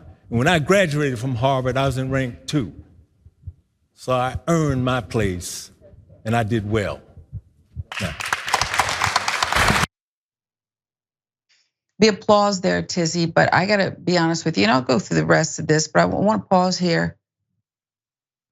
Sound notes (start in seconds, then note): 7.9 applause